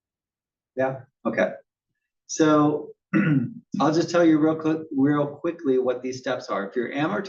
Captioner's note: cough